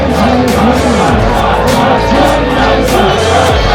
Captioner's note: crowd chanting "Pog"